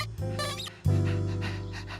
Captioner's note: panting